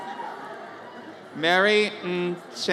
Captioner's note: audience cheers